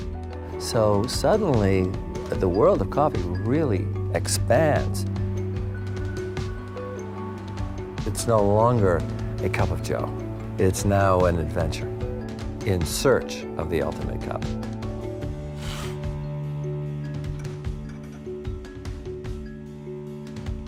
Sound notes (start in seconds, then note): 15.6 slurps